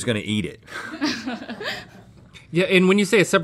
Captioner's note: laughs